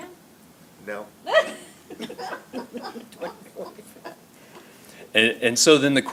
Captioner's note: laughter